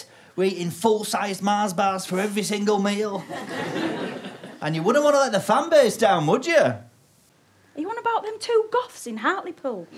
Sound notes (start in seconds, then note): 3.1 audience laughter